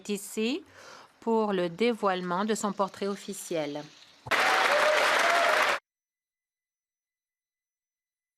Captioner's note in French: applaudissements